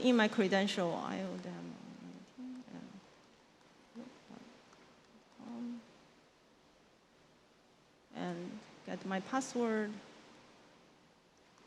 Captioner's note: mumbling